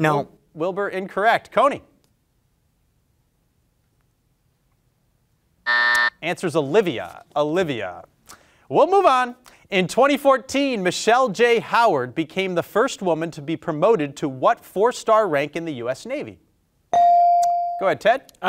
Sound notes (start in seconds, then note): 5.6 buzzer buzzing; 16.9 bell ringing